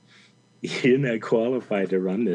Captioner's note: chuckles